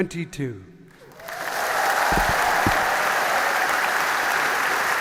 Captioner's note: audience applauding